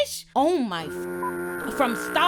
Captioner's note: beep